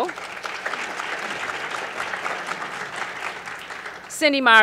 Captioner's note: applause